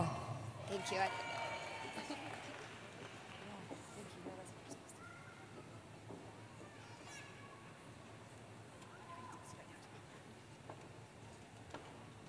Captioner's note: cheering